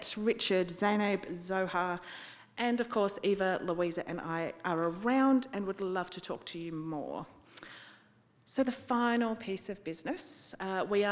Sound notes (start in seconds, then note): none